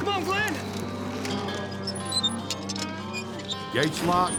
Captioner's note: gate squeaking